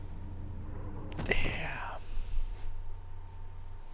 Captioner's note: whispers